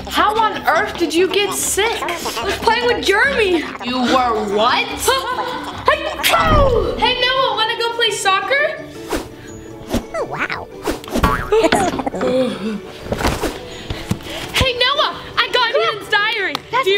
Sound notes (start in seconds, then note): 5.8 sneezes; 11.3 crashes